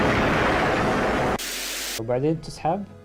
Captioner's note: Static